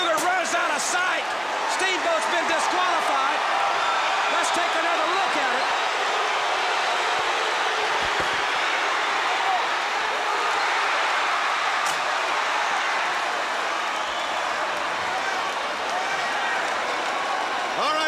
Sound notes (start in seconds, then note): 6.1 crowd cheering